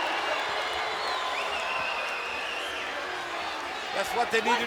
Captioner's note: crowd yelling and cheering